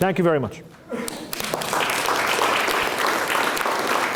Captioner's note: applause